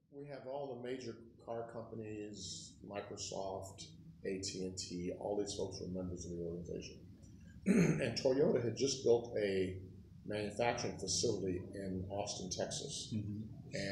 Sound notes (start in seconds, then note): 7.6 clears throat